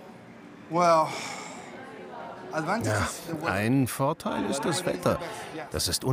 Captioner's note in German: englisch